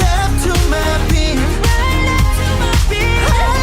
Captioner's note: heartbeat